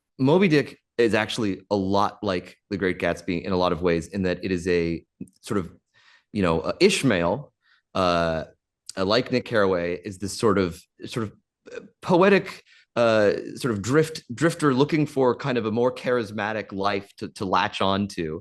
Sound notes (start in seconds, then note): none